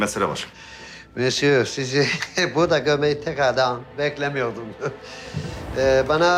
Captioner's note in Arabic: يضحك